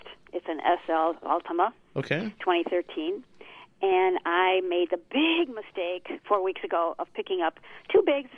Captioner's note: laughs